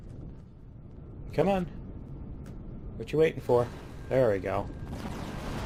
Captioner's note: turrets firing